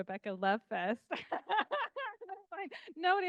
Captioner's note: laughing